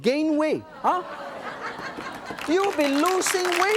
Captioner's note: audience laughs; audience applauds